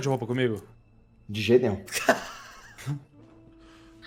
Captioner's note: laughs